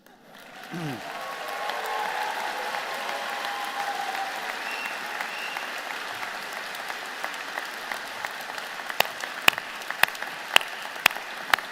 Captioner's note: applause